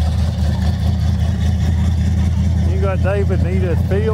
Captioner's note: revving continues